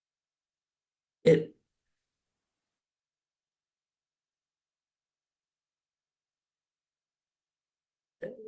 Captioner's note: audio cuts out